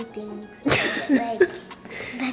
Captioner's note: laughs